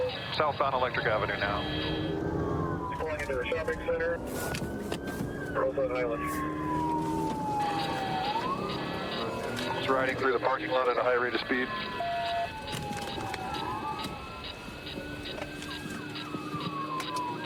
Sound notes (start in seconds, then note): 11.8 sirens blaring